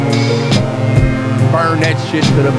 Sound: thump

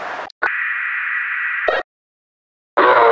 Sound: static

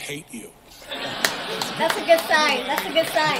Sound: laughter

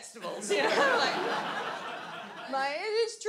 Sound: audience laughs

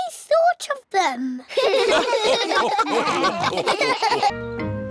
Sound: all laugh

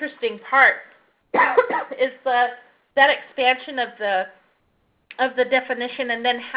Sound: cough

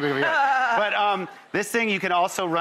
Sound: laughs

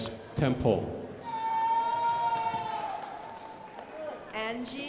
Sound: crowd applauding

